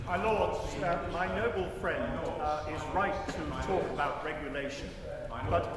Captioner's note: chatter from crowd